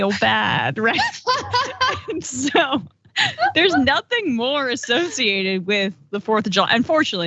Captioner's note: laugh